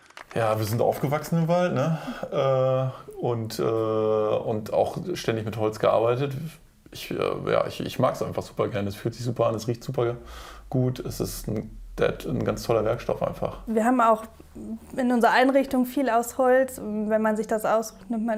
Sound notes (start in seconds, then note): none